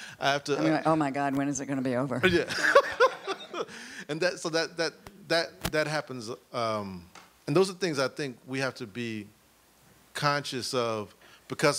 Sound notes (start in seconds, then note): 2.3 laughs